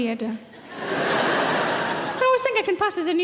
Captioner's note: laughing